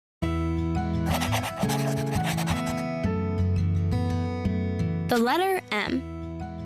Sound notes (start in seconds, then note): 1.0 gentle music; 1.0 pencil scratching